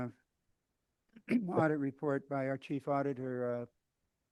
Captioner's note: clears throat